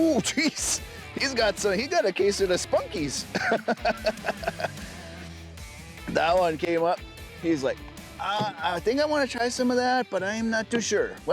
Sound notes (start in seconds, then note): 3.0 laughing